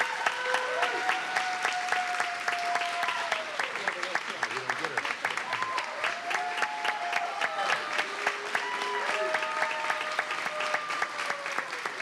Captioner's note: cheers and applause